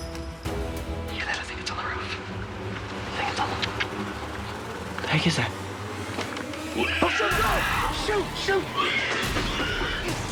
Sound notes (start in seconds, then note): 6.6 screeching; 6.7 creature screeching